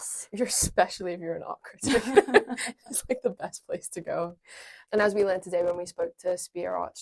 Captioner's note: laughs